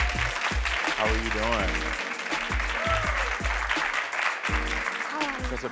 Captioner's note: audience cheers